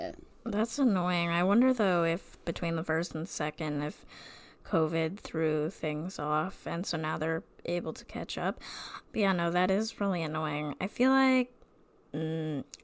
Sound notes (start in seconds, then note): none